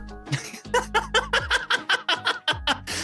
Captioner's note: laughing